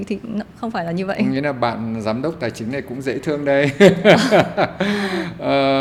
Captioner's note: laugh